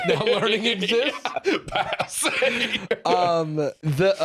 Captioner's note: laughing